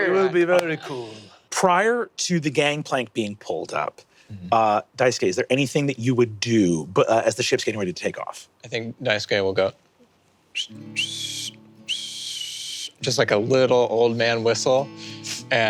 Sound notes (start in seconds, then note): 10.5 whistles